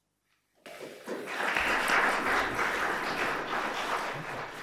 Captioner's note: applause